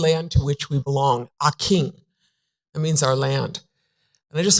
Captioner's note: foreign language